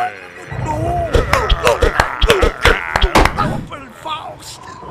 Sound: slapping

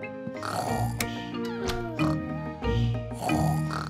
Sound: both snoring

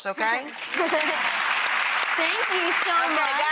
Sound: audience clapping

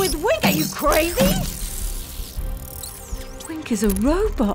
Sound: Wink getting smashed to bits, robotic death

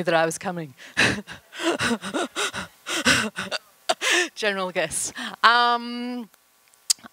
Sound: laughter

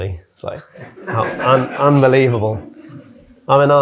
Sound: audience laughing

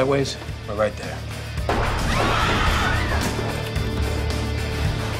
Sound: gunshots, people screaming

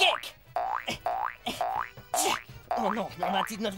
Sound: grunting

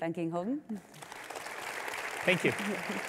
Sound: audience clapping

